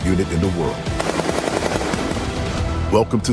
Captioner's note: exciting music continues; weapon firing